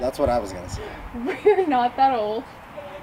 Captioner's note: laughs